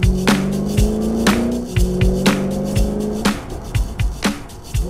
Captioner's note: engine revving; upbeat drumming